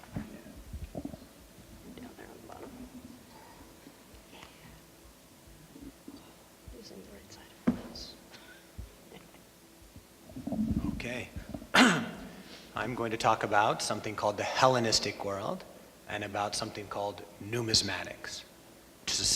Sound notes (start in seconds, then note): 8.9 laughs